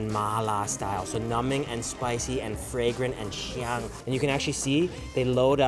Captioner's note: foreign language; foreign language